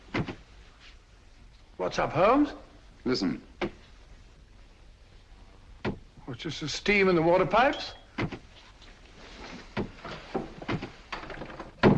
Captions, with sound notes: [thudding] - What's up Holmes? - Listen. [thudding] Well, it's just the steam in the water pipes. [thudding]